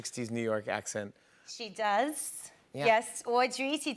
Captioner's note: new York accent